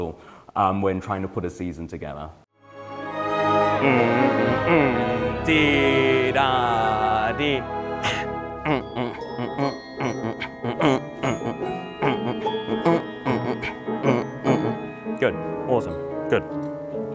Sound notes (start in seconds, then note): 3.3 humming; 3.3 upbeat orchestra music